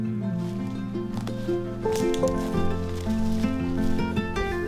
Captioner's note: easygoing music continues; footsteps rustling